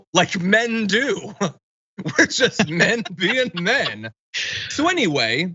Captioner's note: laugh